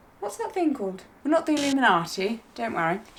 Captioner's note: logo buzzing